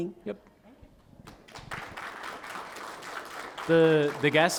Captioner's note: applause